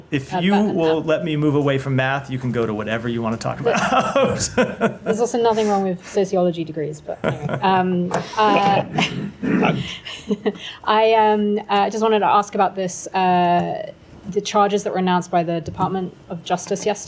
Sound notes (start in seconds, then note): 3.6 laughter; 10.3 laughter